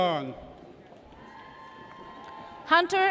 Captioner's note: audience cheers